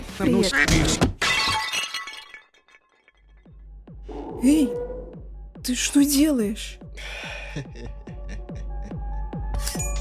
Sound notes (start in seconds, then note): 7.5 cringe laugh